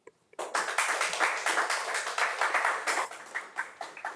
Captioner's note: crowd applauding